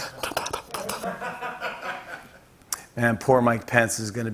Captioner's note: slurps; laughter